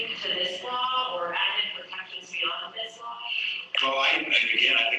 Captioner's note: away from the mic